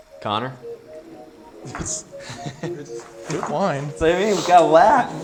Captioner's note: laughs